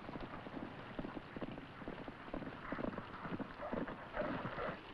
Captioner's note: horse hooves clomping